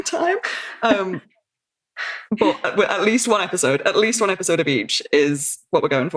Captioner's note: laughs